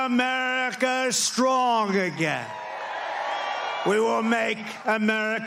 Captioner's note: applause